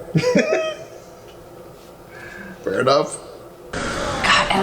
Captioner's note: laughing